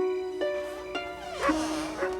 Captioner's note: dog barking; door creaking